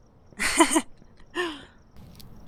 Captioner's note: giggle